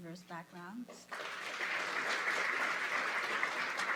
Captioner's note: applause